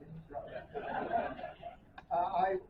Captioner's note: laughter